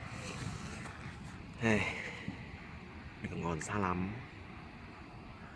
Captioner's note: sigh